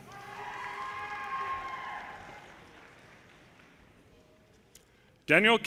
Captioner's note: audience cheers and applause